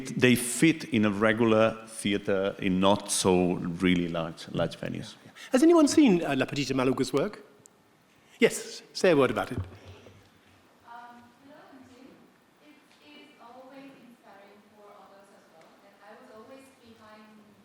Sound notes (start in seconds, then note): 11.4 participant faintly speaking